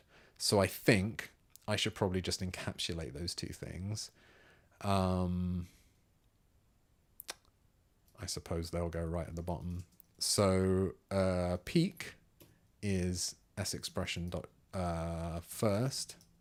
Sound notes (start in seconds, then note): 4.2 silence